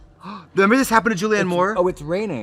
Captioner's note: gasps